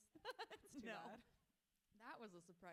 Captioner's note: author laughs